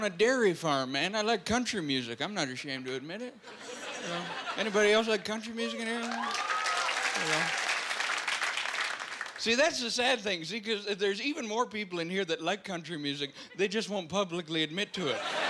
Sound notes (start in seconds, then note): 5.8 applause